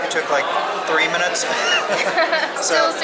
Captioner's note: laughter